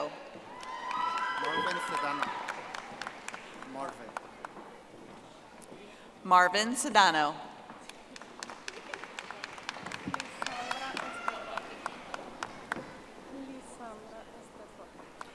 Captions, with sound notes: Jorge Cabreto. (audience applauding) Marvin Cedano. (audience applauding)